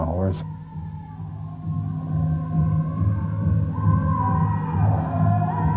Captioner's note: chanting in foreign language